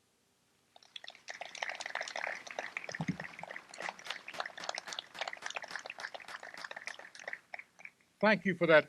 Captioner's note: applause